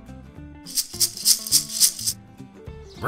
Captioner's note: toy sounds